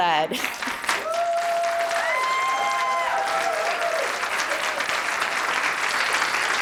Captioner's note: audience applauding; audience cheering